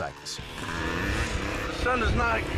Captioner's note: bike buzzing